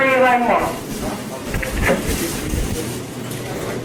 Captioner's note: cart rattling